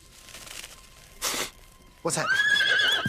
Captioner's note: sniffs; neighs